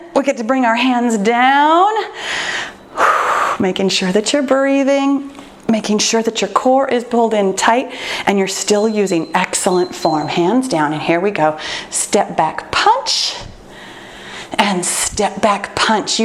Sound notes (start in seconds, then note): 2.1 exhales; 8.6 timer beeps